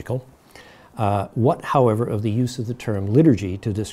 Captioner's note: none